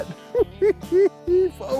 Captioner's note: giggles